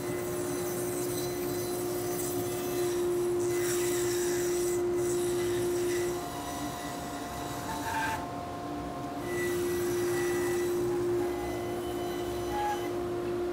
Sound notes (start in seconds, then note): 0.0 saw whirring